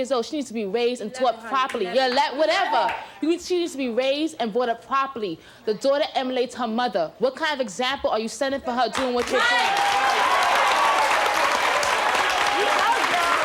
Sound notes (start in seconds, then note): 2.3 mom mumbles; 9.0 audience applauds